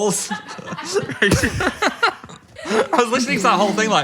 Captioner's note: group laughing